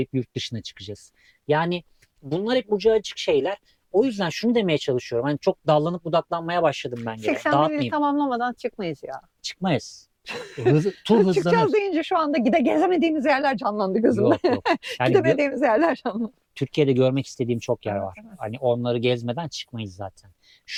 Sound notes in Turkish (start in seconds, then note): 14.0 kahkaha